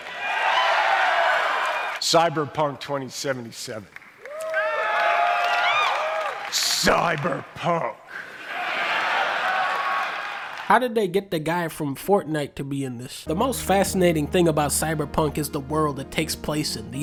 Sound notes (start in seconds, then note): 0.0 cheering; 4.2 more cheering; 8.3 laughter, cheering